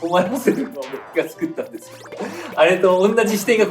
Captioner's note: laughs